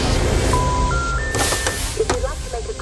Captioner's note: tense music; line beeps